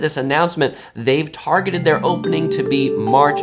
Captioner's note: notification ringing